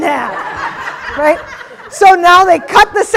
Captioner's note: audience laughing